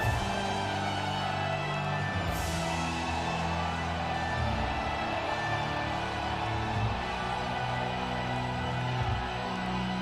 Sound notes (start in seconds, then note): 0.2 intense music; 4.0 troops cheer; 6.9 intense music